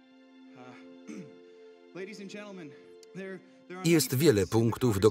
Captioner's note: clears throat